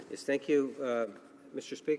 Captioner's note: some Applause